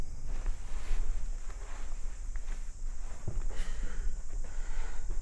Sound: insects chirping

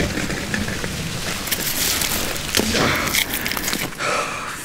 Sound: branch snapping

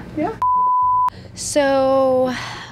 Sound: beep

